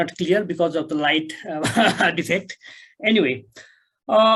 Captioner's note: chuckles